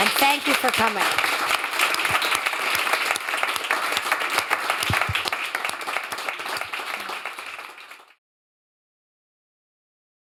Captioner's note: applause